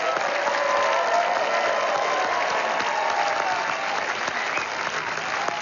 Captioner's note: applause